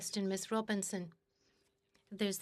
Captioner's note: speaking in French